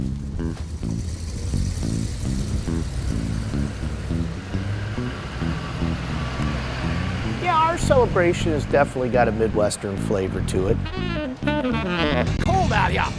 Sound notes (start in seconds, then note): 1.9 vehicle engine; 10.5 saxophone music